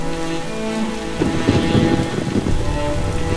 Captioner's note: Clouds thundering